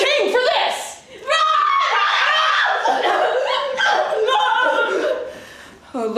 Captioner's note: fearful screams of little prince and little dyke